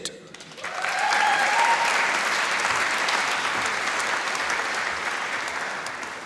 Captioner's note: applause